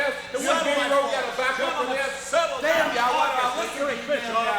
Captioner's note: group murmuring